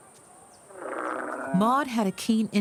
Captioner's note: camel grunts